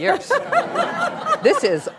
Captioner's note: laughing